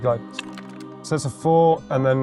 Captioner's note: dice clattering